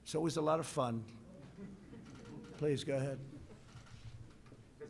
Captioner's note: laughter